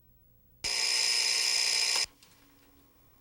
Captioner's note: alarm ringing